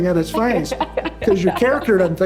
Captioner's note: laughs